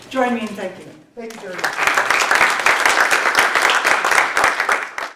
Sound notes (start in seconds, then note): 2.9 applause